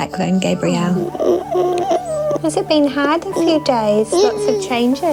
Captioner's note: whimpers